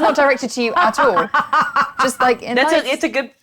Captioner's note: laughs